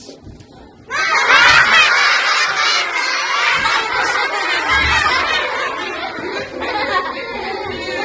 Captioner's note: laughter